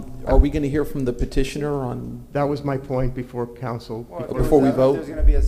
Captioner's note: off microphone